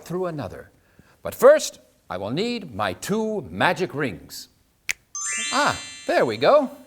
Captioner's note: finger snap